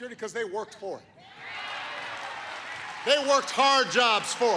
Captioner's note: cheering and applause